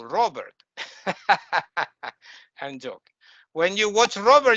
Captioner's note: laughing